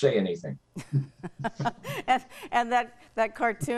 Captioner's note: laugh